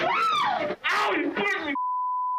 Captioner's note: screaming